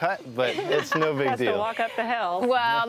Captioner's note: laughs